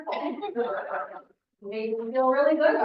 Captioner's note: audience laughing